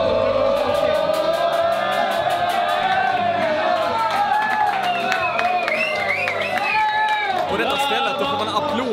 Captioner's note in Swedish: Applåder